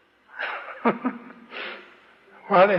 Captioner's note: laughs